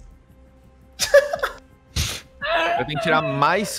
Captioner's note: laugh